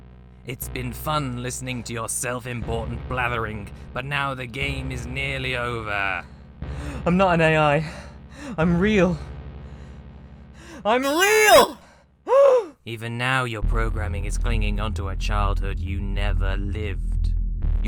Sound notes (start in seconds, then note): 10.5 gasp; 10.7 bit-crushed